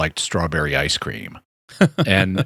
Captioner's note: laughter